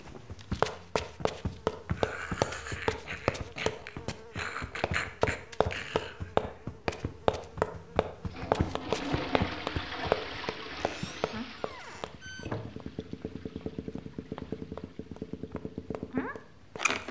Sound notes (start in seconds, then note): 1.0 flies buzzing; 2.0 snarling; 8.2 toilet flushing